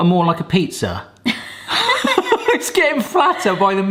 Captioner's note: both laugh